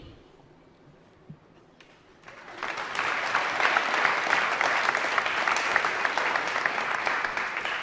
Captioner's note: applause